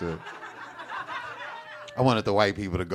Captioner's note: audience laughing